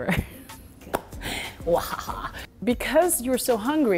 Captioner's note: laughs